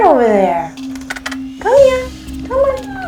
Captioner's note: smacking lips